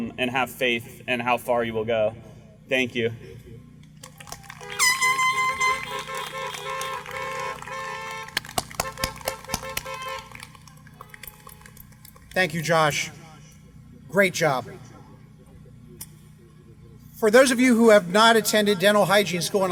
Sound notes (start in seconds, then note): 4.0 applause